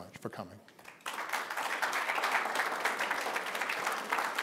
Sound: applause

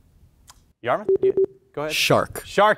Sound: buzzer pings

